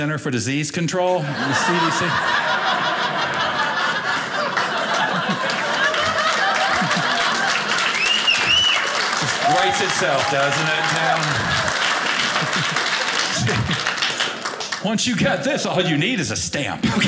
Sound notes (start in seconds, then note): 1.6 audience laughing; 5.3 audience applauding; 11.2 audience applauding